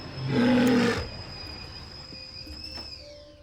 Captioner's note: roars